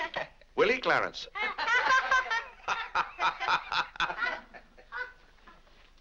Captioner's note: family laughs